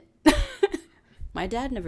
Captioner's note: laughs